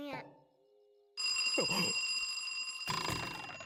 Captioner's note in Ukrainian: дрилинчання будильника